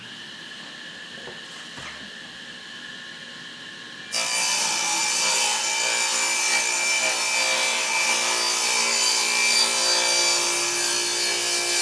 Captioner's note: saw Noise